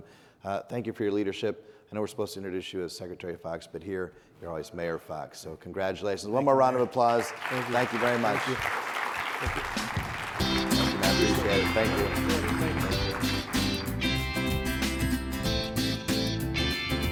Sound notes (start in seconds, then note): 9.4 upbeat music; 10.4 audience applauding